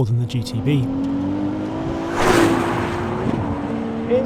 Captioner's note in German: Motor brüllt